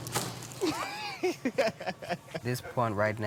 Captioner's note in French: Rires